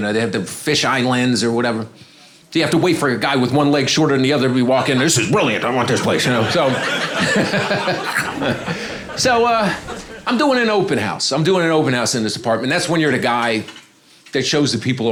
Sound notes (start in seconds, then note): 3.0 audience applauding